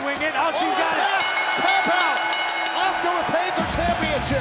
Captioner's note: bell rings